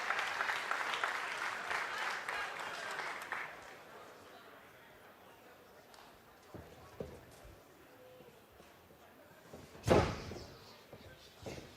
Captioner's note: clapping